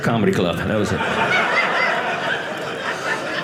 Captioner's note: audience laughing